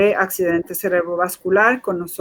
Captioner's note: speaking in Foreign Language